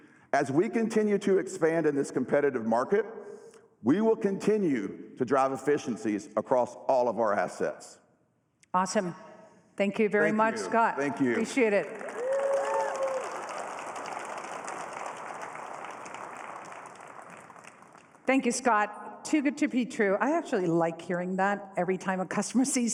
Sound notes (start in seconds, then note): 13.1 applause